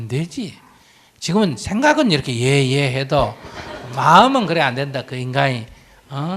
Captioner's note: audience Laughter